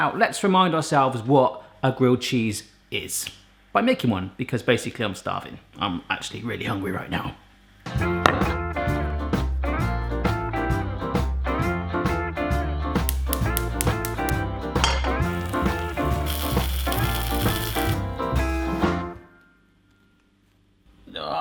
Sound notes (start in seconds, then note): 8.3 bright music; 14.7 stove igniting; 14.9 cheese sizzling